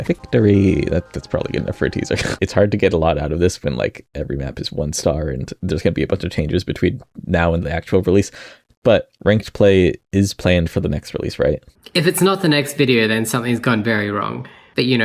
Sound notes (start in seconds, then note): 2.1 chortles